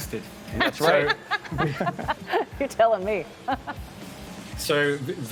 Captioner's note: laughs